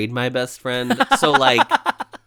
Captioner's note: laughs